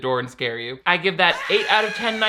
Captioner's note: eerie yelling